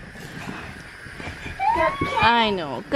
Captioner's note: cries